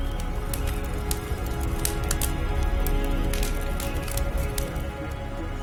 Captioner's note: fire crackling roaring